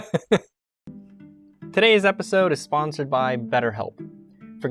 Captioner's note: laughter